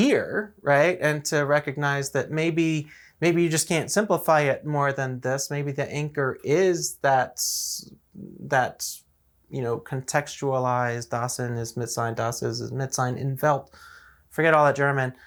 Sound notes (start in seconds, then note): 12.6 German quotations of Heidegger